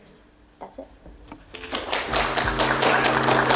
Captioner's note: people applauding